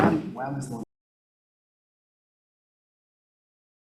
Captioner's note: gavel bangs